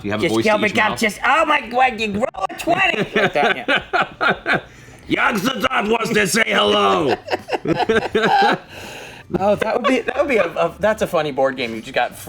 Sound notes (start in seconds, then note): 2.5 laughs; 6.7 laughter